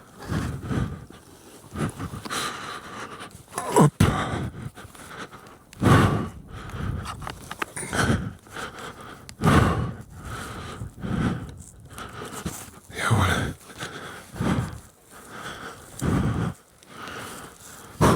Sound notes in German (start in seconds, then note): 0.0 japst; 0.0 seufzt; 1.9 hecheln; 1.9 seufzt